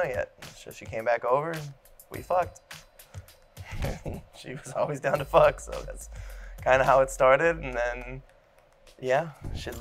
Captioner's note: laughs